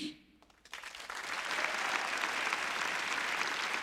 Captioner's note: applauding